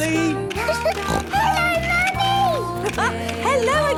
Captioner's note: giggling and snorting; laughing